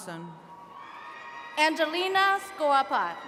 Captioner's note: attendees cheering